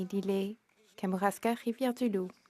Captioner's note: speaking French